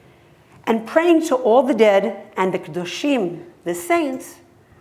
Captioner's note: hebrew